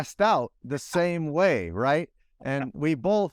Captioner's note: laughs